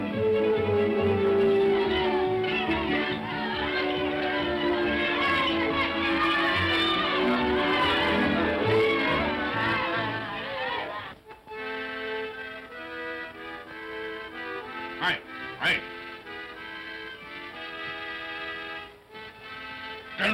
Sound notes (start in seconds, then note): 0.0 whimsical music; 2.4 children's voices; 11.0 accordion plays; 16.9 accordion plays